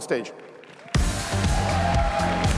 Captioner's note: cheers, applause